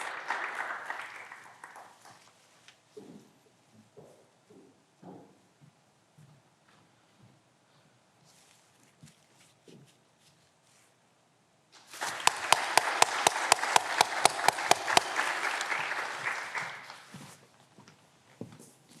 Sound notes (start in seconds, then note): 2.9 footsteps approaching